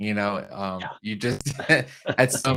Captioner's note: chuckles